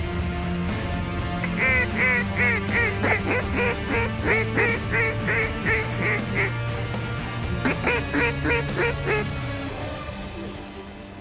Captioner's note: duck calls